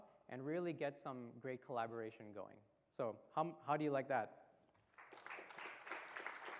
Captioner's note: applause